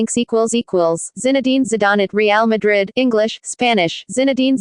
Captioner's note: Spanish